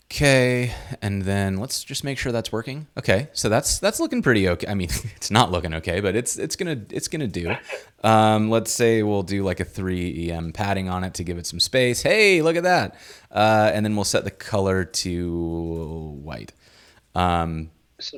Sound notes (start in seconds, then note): 7.4 scoffs